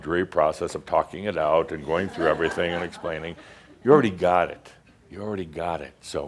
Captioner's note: some chuckles